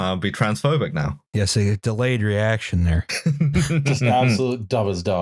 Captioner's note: laughs